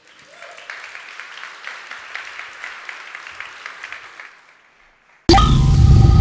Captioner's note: applause